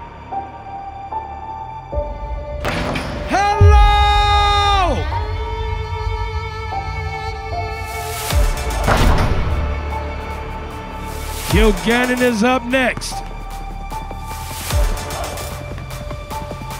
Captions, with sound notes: (ball dunking) Hello! (ball dunking) Kilganon is up next. (ball bouncing)